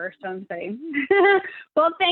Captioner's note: chuckles